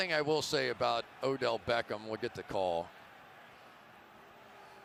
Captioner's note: booing